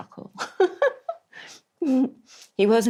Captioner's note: laughs